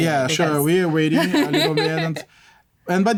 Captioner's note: laughter